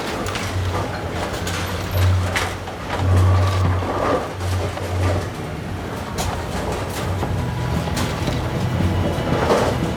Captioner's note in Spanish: Sonido de maquinaria